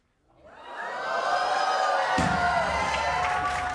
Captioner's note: cheers and applause